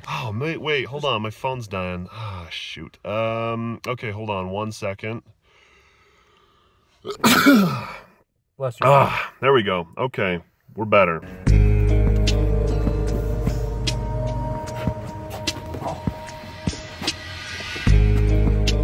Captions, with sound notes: Oh man, wait. Hold on, my phone's dying, ah shoot. Okay, hold on, one second. (yawns, sneezes) - Bless you. - Ah, there we go. Okay, we're better. (spy music)